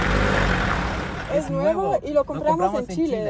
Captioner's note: in Spanish